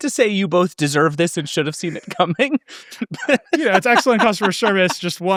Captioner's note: laughs